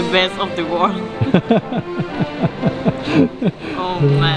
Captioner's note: laughs